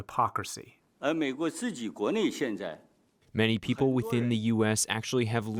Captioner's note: through translator